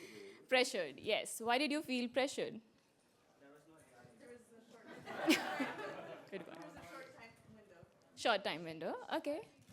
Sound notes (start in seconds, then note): 4.9 laughter